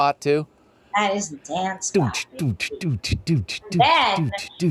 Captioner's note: beat boxes